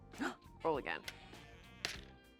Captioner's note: gasps